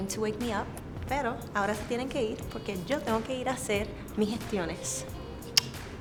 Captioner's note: speaking in foreign language